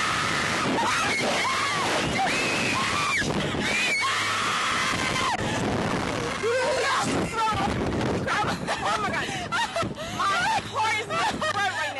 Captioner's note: screams